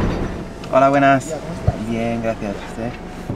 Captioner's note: in Spanish